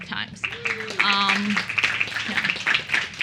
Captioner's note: applause and cheering